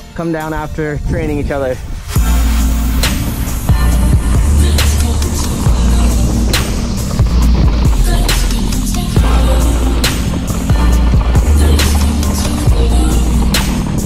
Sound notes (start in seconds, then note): 2.6 rhythmic instrumental music; 7.9 tires rumbling